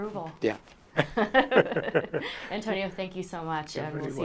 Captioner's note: laughter